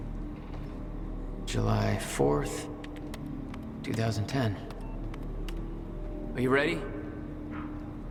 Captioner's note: taps on a keyboard